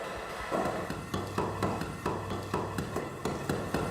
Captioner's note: concrete blocks falling